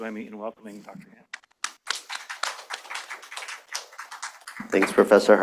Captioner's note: applause